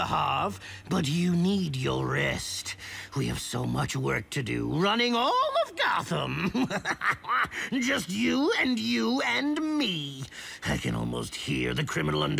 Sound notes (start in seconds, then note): 6.2 laughs